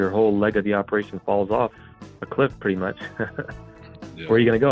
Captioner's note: laughs